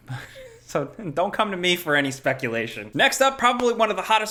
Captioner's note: chuckles